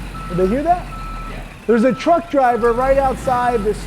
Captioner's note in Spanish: Voz En Off